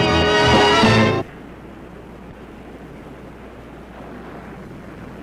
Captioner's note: waves crashing